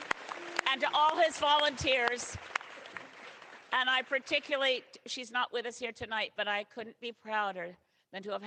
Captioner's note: cheering